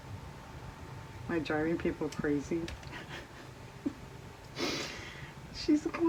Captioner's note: laughs